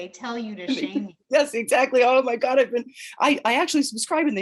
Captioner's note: chuckles